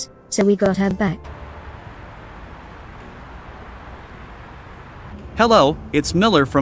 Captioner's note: street sounds